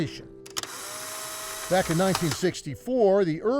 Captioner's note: camera snapping